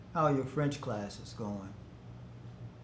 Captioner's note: none